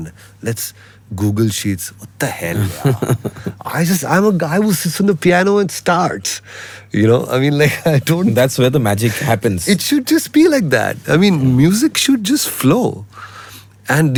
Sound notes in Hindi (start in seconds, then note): 2.6 हंसी